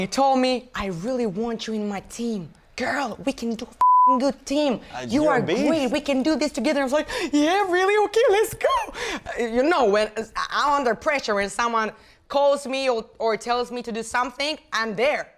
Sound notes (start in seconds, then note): 3.8 beep